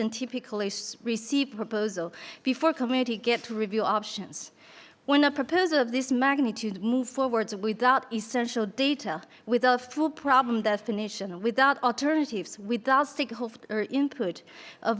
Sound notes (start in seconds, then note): none